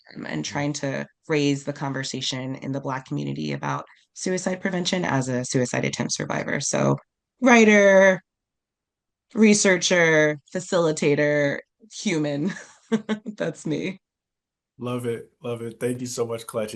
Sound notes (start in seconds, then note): 11.6 laughs